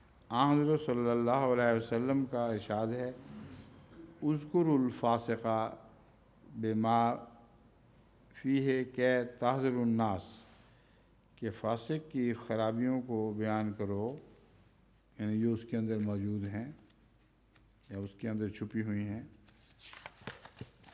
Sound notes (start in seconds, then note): 4.1 Arabic